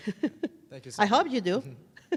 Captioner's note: chuckles